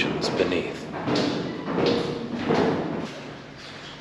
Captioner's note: rhythmic Thunking